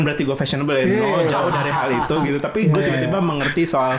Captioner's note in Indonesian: Tertawa